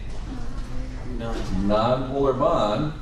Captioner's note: indistinct background chatter